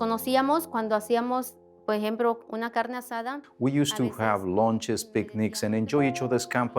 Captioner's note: speaking Spanish